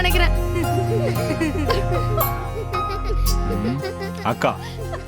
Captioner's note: Pintu's mother also laughs